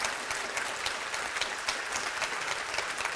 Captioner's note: applause